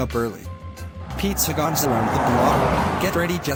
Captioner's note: car revving